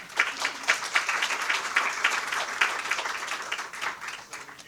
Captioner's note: audience applauding